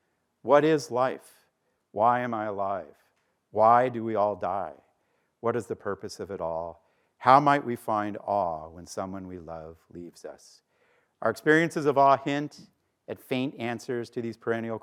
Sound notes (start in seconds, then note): none